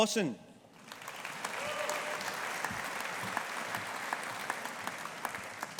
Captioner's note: audience applauding